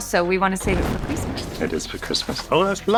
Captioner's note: paper explodes